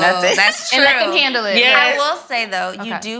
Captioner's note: laughs